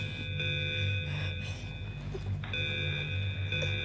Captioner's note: alarm